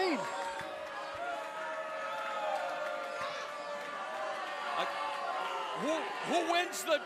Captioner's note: crowd cheering